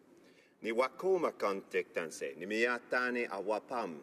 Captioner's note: speaking French